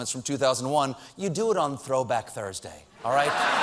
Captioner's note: laughter